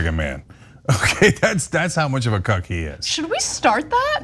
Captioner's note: laugh